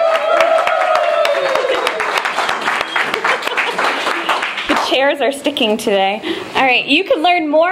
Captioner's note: applause